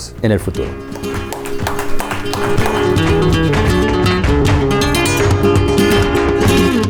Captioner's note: upbeat music; clapping